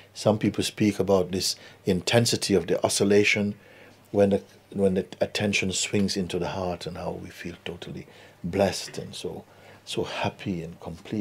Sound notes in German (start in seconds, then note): none